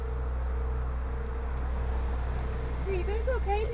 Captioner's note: tense music; gravel crunching